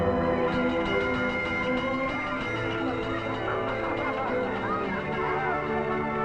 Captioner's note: bell ringing; children laughing